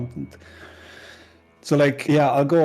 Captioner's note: deep breath